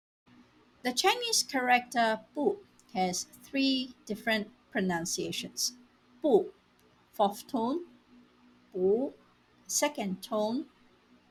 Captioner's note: neutral tone